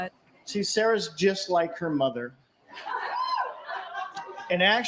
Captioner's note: cheering